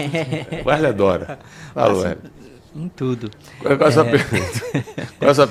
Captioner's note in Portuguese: risadas